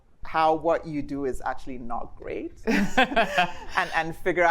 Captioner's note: laughs